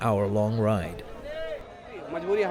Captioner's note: through translator